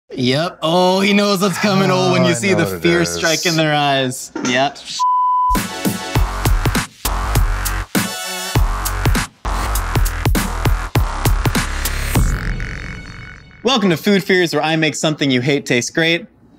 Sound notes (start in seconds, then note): 5.0 beep; 5.5 upbeat music